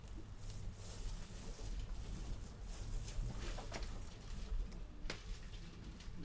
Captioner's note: clothes rustling continues